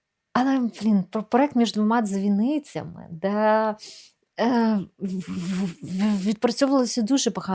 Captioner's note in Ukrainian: сопіння